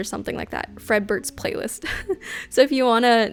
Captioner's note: chuckles